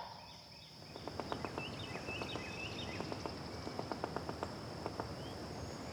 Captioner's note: woodpecker tapping